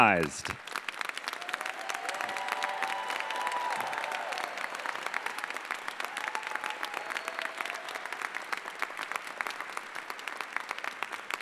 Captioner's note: applause